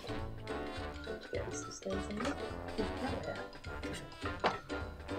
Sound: talking quietly

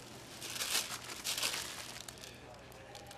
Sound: sighing

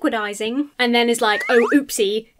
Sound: slide whistle blows

